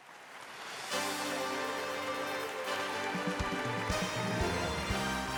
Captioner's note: canned applause and sweeping music